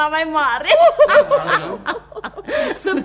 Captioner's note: they both laugh